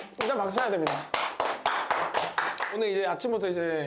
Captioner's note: pouring applause